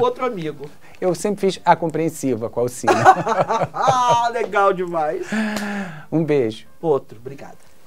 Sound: laughs

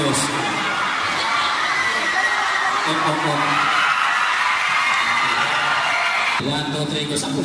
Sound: crowd

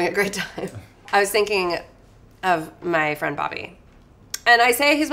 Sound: laughs

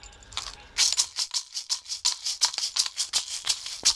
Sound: rattle shakes

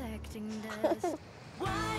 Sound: Kristin giggling

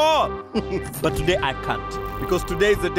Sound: chuckling

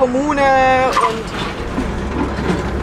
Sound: tire squeal

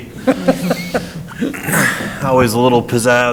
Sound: laughs

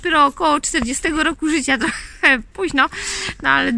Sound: laugh

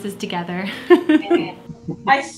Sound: laughs

